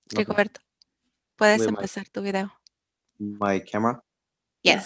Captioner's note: speaking foreign language